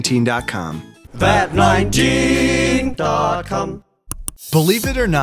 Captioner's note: click